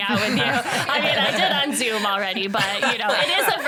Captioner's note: all laugh